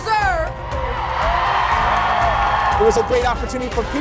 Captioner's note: audience cheers